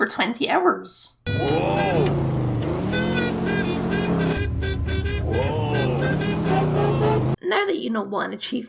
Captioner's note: car Noises; old Timey Radio noises